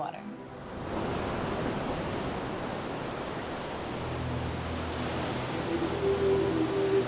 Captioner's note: waves crashing; dreamy music